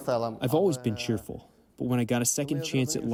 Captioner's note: through translator